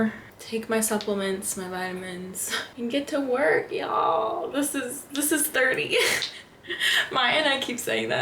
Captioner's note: laughter